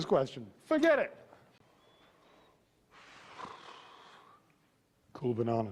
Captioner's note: long sigh